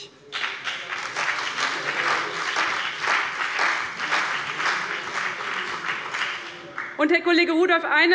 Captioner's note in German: Beifall bei dem BÜNDNIS 90/DIE GRÜNEN und der CDU